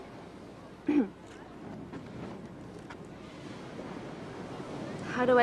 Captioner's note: clears throat